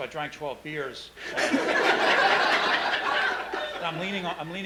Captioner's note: laughing